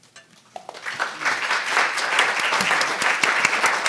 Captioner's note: audience applauding